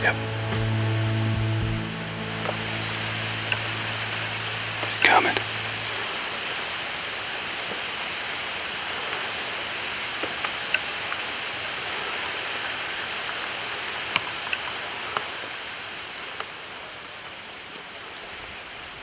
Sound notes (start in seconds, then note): 6.1 sound of the wind in trees